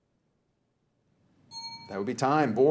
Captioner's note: bell rings